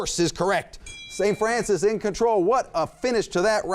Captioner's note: bell dings